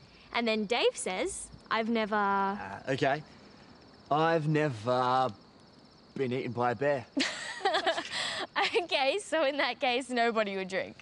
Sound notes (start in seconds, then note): 7.1 laughter